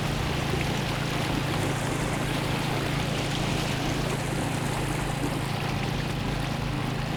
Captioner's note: boat motor humming; water sloshing